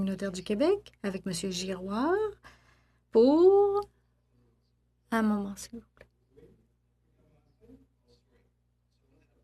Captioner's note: speaking French